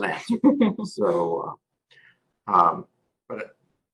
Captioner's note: laugh